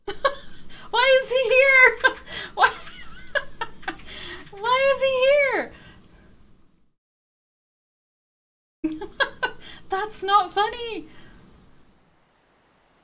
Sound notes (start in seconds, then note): 1.0 laughing; 8.9 laughing